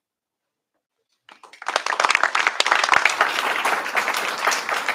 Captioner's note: applause